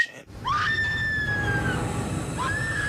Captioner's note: woman screaming; woman continues screaming